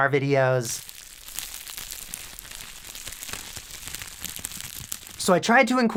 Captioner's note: crinkle, crinkle